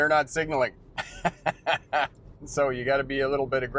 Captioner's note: laughing